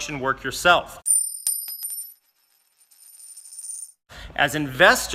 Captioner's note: coin clanging